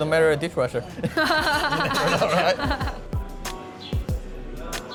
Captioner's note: laughs